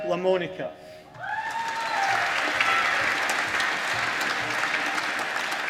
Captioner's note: applause